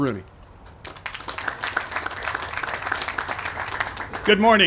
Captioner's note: applause